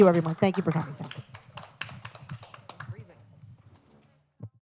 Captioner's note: applause